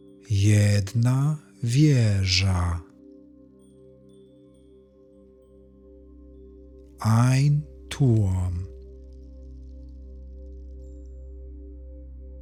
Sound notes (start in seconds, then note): 8.4 german